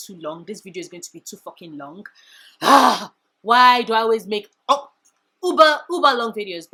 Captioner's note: sigh